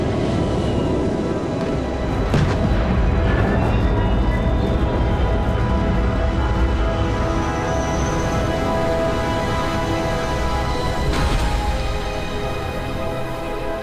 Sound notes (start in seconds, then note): 2.2 spaceship engine roaring